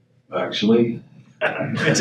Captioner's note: audience laughs